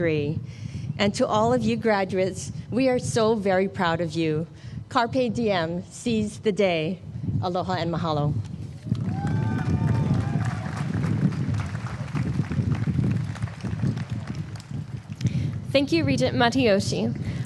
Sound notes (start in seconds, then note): 8.9 applause